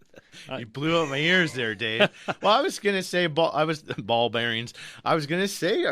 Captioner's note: laughs